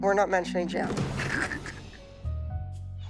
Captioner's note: chuckling